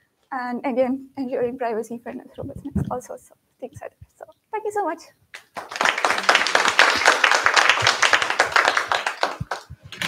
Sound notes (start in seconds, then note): 5.3 applause